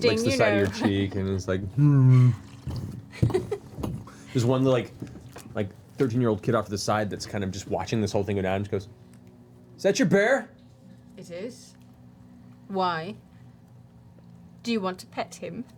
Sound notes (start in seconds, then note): 1.7 bear sounds